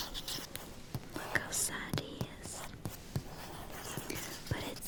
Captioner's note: taps and scratches book